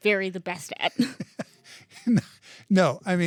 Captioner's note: laughing